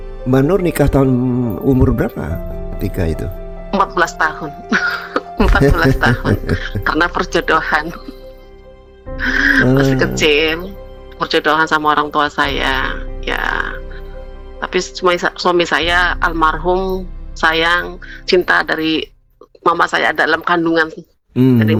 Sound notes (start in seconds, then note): 4.4 tertawa